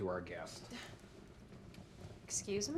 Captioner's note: Claire scoffs